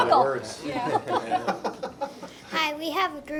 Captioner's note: laughter